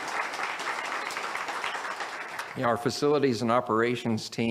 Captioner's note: audience applauds